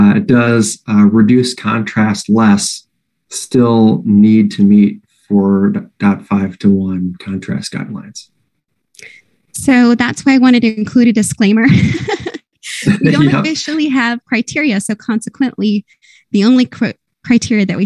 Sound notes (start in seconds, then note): 12.7 laughs